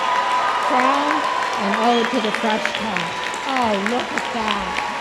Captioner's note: applause